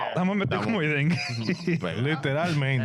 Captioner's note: speaking In Foreign Language